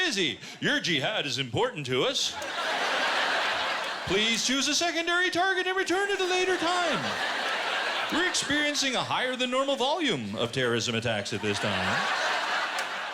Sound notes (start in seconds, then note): 2.3 laughter